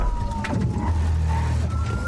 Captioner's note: thuds